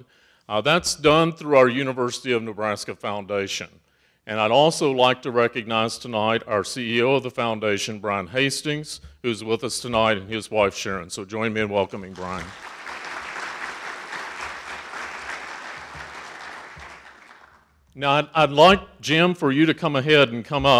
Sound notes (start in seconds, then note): 12.1 audience applauding